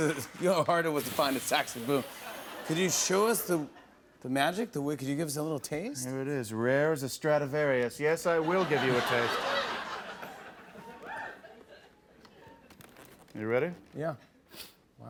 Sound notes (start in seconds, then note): 8.4 laughter